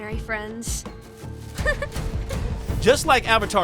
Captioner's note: laughing